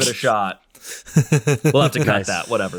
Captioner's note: laughing loud